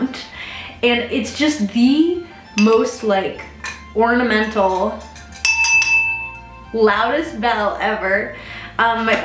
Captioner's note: bell tolls